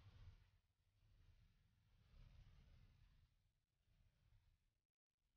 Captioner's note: none